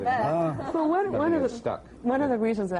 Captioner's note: laughs